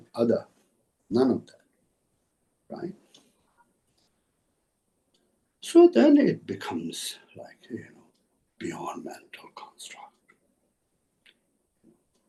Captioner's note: tibetan